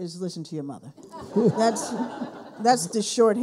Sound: people laughing

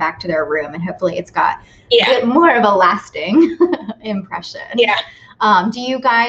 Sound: laughs

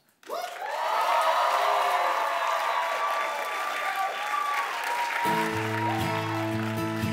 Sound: applause

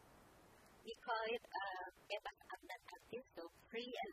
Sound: speaking indonesian

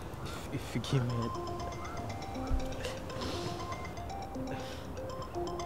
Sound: phone rings

